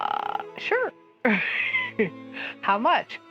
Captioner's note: laugh